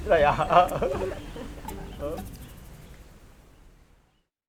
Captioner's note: both laughing